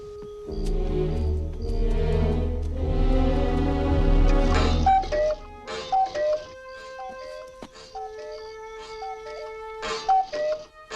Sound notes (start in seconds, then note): 0.8 foreboding music quickens; 5.7 clock cuckoos